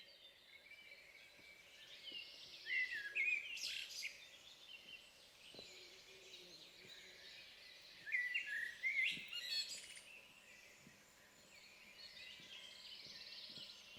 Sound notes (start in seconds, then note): 3.6 birdsong